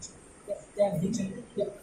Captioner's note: Cantonese